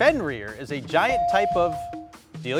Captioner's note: buzzer dinging